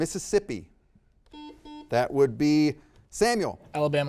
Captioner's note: buzzer beeps